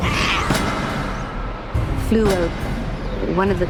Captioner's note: clang